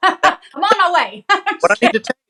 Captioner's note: laugh